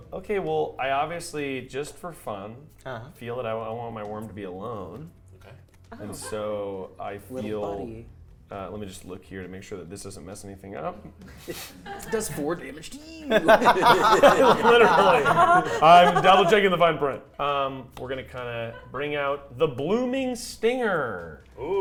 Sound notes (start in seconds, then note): 13.2 players laughing